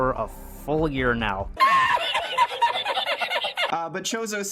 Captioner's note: high-pitched laughter